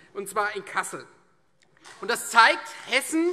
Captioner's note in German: Vereinzelter Beifall SPD